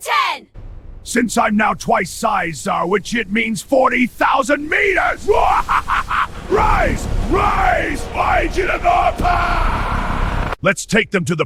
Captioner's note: evil Laughs